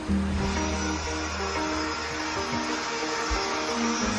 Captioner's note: saw sounds